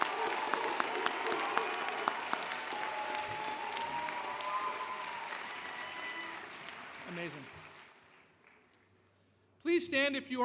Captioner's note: cheers and Applause